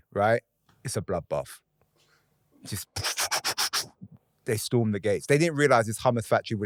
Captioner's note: pew-pewing